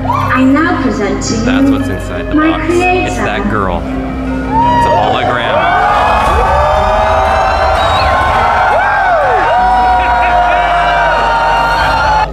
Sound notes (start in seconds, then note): 6.6 crowd cheering